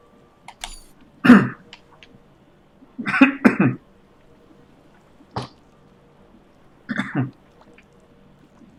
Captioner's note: clears throat and coughs